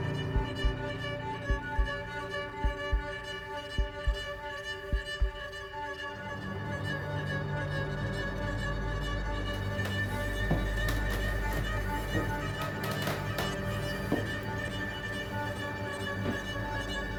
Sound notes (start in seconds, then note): 11.2 stairs creaking; 11.2 stirring music continues